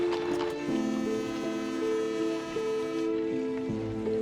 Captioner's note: whistle blows